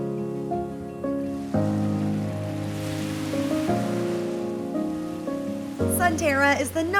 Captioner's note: waves crashing on beach